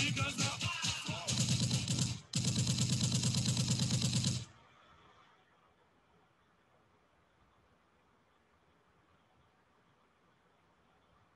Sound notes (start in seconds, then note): 1.2 gunshot blasting